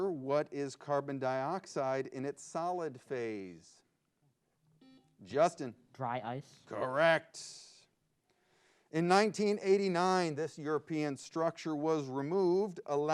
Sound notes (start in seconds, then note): 4.8 buzzer beeps